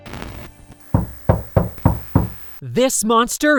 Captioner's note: knocking at the door